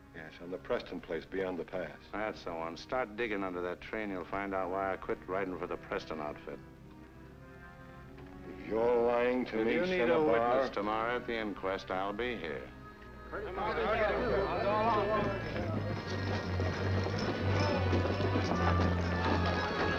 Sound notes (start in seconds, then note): 13.3 men chattering; 16.2 dramatic music